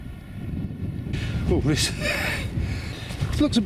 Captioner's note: laughs